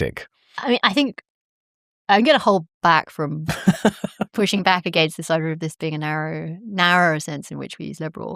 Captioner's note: laughter